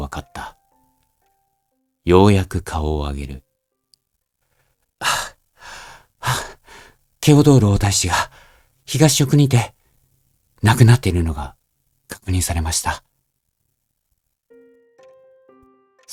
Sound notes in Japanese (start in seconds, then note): 5.0 ため息; 5.6 荒い息